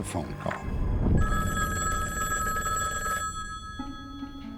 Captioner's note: phone beeping